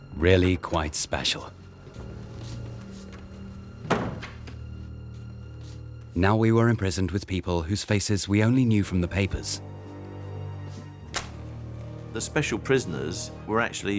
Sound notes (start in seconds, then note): 3.8 door clacks